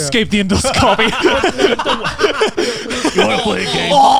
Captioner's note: laughs